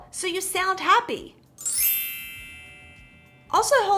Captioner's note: glitter chimes